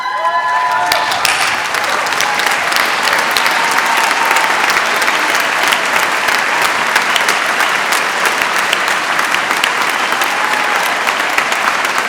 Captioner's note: applause